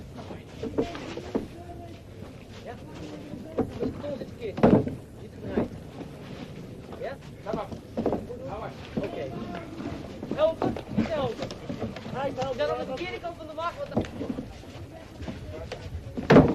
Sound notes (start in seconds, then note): 2.7 background chatter